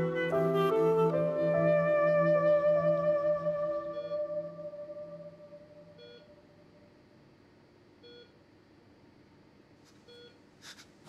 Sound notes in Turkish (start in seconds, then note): 6.8 Yaşam destek cihazı çalışıyor